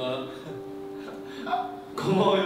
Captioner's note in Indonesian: Ha ha ha